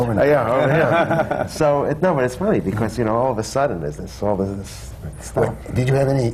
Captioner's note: laughter